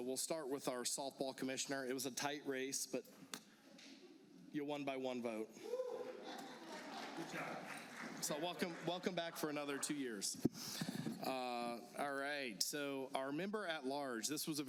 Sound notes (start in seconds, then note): 6.6 applause